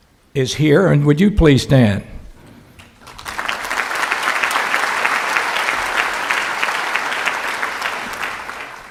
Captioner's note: clapping